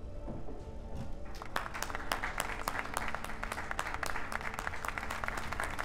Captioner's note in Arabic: الجمهور يصفق